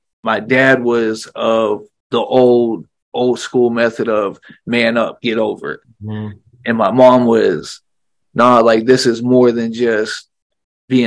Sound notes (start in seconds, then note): none